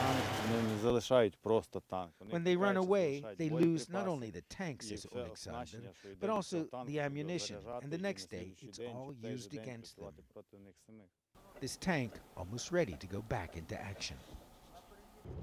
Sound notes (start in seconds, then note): 7.8 speaking non-english